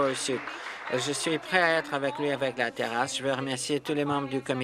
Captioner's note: applause